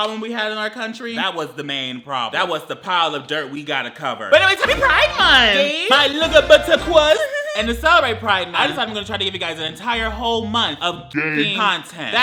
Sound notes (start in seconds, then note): 7.3 giggles